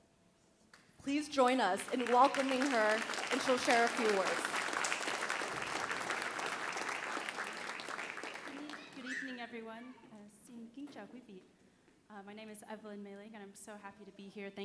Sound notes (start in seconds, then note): 2.8 audience applauding; 10.2 speaks in Vietnamese